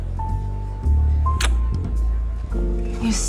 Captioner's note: kiss